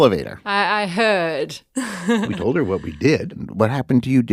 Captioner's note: laughs